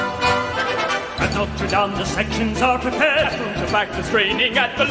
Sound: none

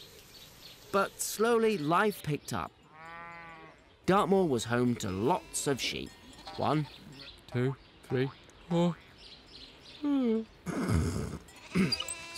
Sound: yawn

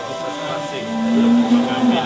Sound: people sounds

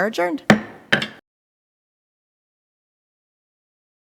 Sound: gavel bangs

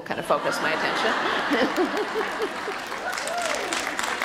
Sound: audience laughter and cheers

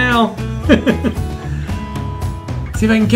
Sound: laughing

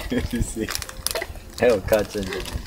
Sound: laughs

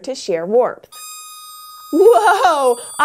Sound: squeaks yawns

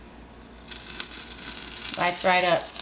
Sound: sizzling sound

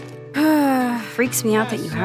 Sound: sighs

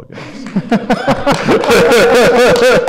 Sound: laughter

